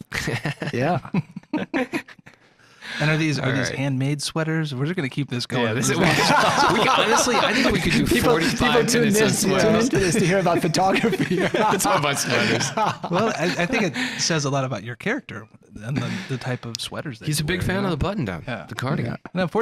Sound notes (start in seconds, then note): 0.1 laughing; 5.7 laughing together